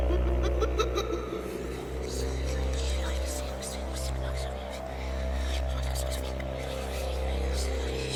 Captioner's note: whispering